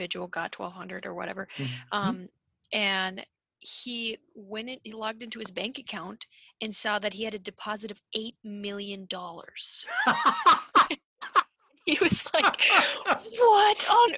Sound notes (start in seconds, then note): 9.8 laughs